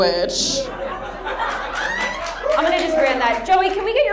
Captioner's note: audience laughs